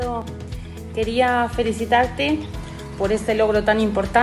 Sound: speaking spanish

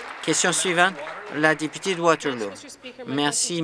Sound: applause

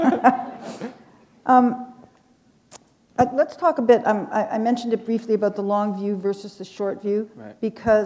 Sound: chuckle

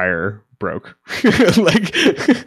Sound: laughing

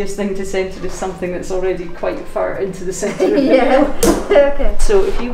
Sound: laughs

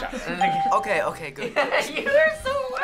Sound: bell rings; laughs

